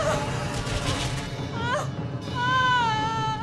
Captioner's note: crying